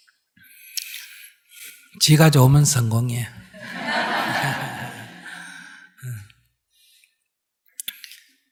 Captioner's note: all Laughter